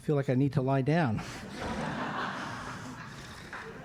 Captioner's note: audience laughs